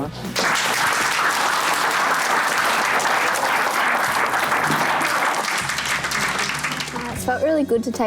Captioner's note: applause